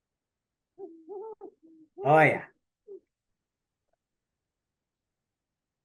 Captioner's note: an owl’s hoot